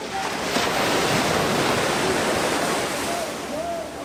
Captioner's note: wind rustling